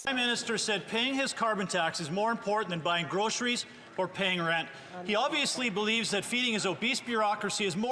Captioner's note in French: voix de l'interprète